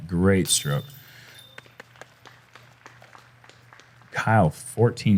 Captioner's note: applause